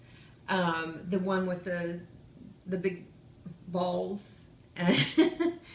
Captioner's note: laughs